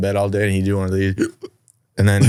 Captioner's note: hiccups